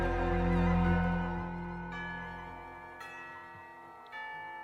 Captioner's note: doorbell ringing